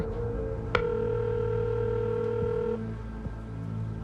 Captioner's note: line ringing